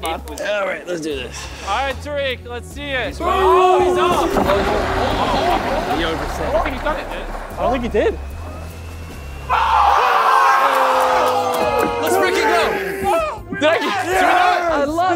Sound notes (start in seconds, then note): 3.8 board sliding; 4.9 indistinct chattering; 9.2 contestants screaming and clapping